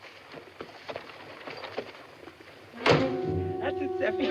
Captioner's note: BANGlNG